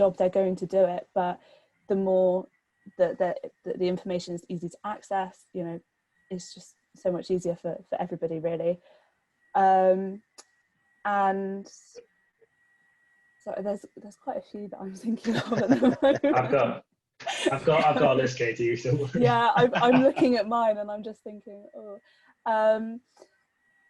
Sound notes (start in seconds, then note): 15.2 laughter